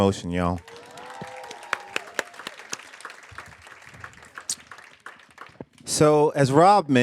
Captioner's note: cheers; audience applaud